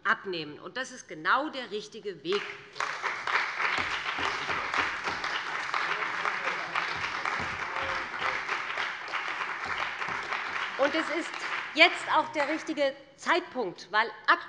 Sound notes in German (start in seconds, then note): 2.3 Beifall bei dem BÜNDNIS 90/DIE GRÜNEN und der CDU